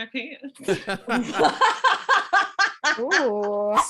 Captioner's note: laughs